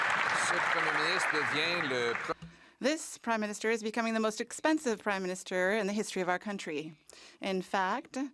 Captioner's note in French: voix de l'interprète